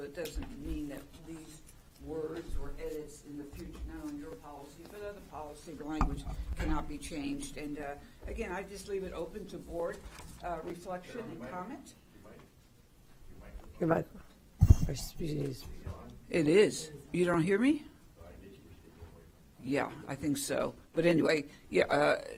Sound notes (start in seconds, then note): 13.9 off microphone